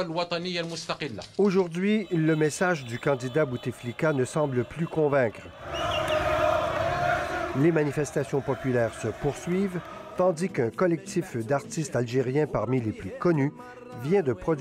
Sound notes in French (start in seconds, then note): 5.3 cris des manifestants